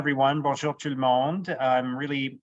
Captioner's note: speaking French